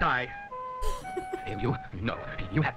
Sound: chuckles

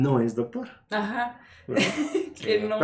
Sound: agreeing & Laughing

